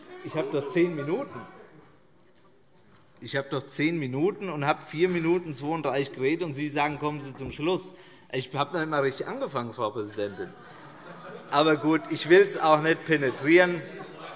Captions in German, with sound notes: Ich habe doch 10 Minuten, und davon habe ich 4:32 Minuten geredet, und Sie sagen: Kommen Sie zum Schluss. Ich habe noch nicht einmal richtig angefangen, Frau Präsidentin. [Allgemeine Heiterkeit] Aber gut, ich will es auch nicht übertreiben.